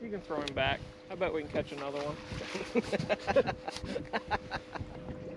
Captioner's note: laughter